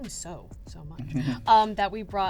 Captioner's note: chuckles